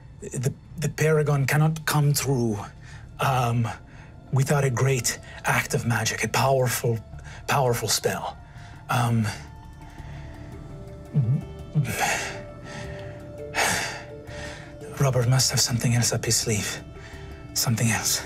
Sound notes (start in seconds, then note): none